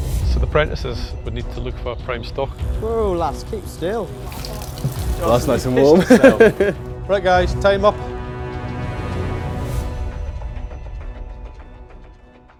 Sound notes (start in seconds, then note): 5.5 laughs